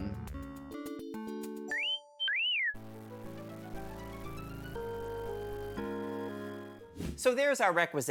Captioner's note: wolf whistle